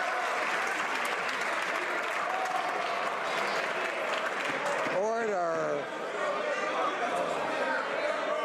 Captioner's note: some Applause